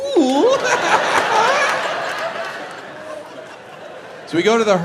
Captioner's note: audience laughs